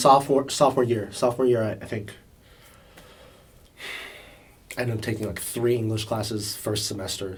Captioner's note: sighs